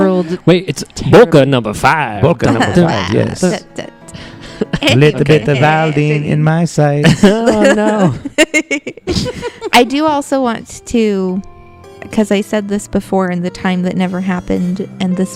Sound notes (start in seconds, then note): 4.3 singing; 6.8 laughing; 7.0 laugh